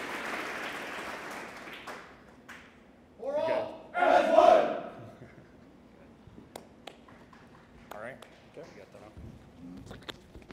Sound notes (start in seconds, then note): 4.9 laughs